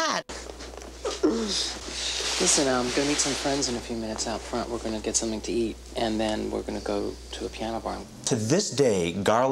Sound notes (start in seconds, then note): 0.9 man with red shirt, chuckling